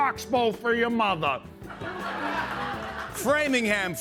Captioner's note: laughter